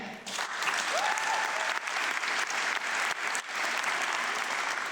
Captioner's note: audience clapping